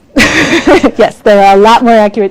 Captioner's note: laughs